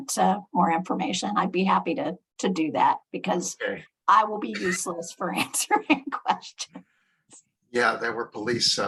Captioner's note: laughs